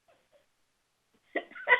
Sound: laughter

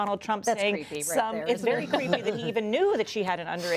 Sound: laughter

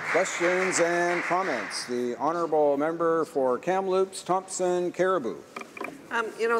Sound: applause

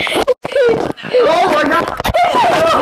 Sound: camera Hits

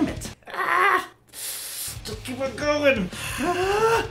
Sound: sucks air through teeth

